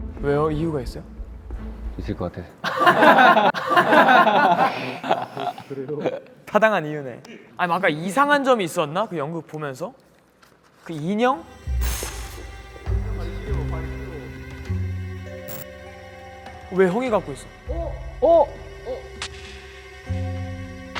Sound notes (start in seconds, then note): 2.6 laughing together